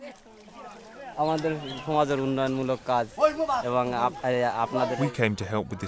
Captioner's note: foreign language